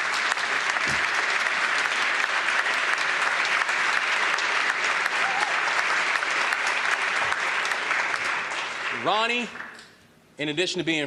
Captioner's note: applause